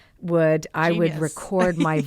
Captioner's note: laughs